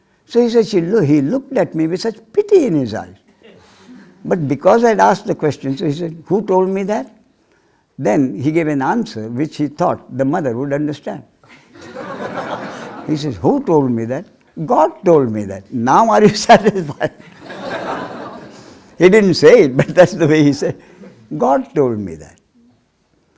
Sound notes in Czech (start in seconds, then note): 11.4 smích